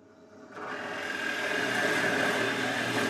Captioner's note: machine noise